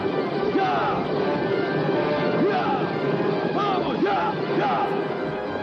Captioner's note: continues yelling